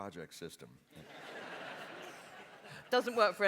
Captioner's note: laughter